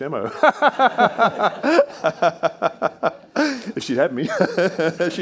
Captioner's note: all laughing